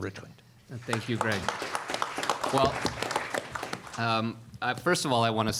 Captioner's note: applause